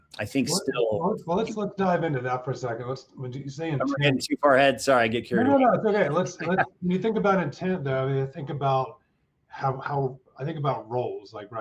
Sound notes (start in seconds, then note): 6.2 chuckles